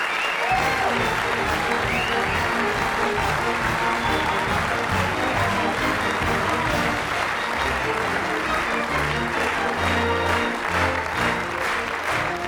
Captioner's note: applause; curtain call music plays